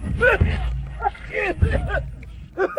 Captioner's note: cough cough